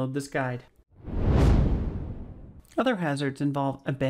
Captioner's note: whooshing